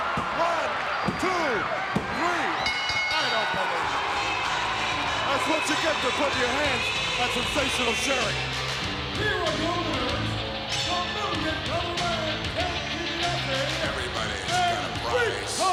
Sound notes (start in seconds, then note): 0.1 hand pounding; 2.5 bell dinging